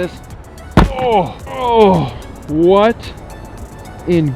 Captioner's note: groans